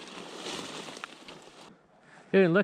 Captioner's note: brush rustling